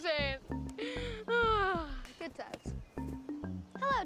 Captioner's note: sighs